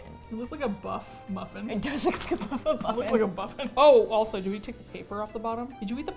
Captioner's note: laughs